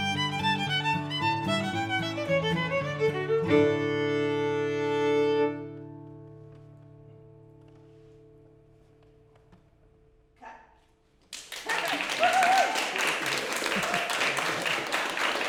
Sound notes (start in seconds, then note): 11.2 applause from attendees